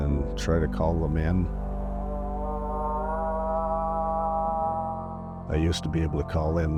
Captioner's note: horn mimicking moose call